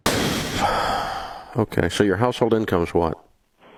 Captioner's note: sighs